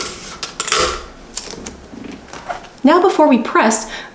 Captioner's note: tape tearing